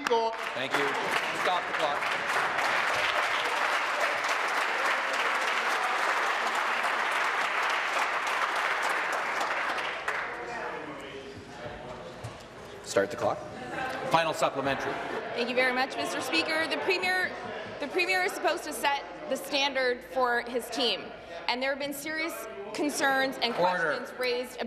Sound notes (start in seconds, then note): 8.7 applause